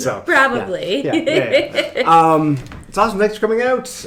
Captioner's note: laughing